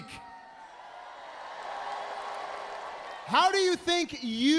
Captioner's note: crowd cheering